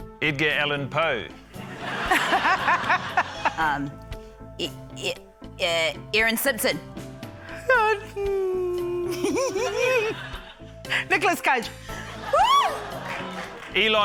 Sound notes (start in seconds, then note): 1.6 laughter; 7.9 sighs; 13.0 scattered applause